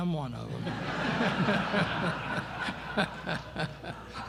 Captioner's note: laughter